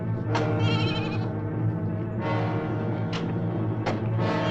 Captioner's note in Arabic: نباح الماعز